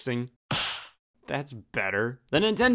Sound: hand smack

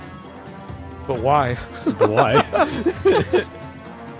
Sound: laughter

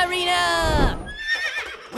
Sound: horse neighs

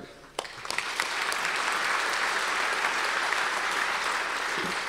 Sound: audience applause

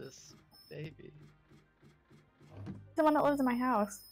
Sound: mysterious doot doot doot noise

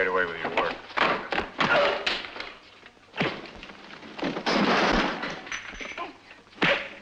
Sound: grunting

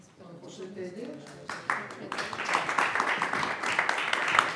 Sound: audience applauding

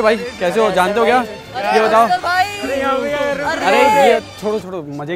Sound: crowd goes crazy about

